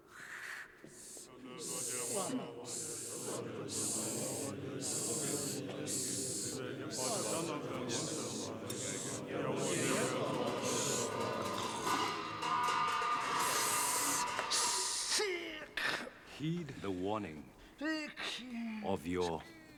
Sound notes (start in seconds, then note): 0.0 monks Murmuring; 10.5 cymbal Rattles; 10.5 slurps